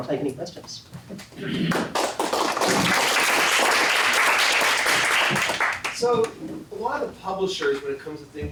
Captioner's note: applause